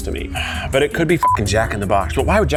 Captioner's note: beep